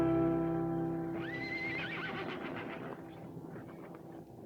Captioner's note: horse neighs